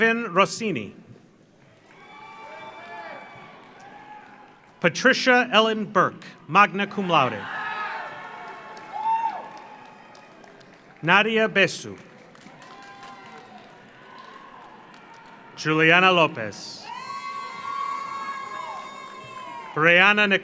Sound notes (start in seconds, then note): 1.6 audience applauds; 1.7 audience cheers; 7.3 audience cheers; 7.7 audience applauds; 12.4 audience cheers; 16.9 audience applauds